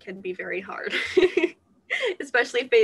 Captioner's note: laughter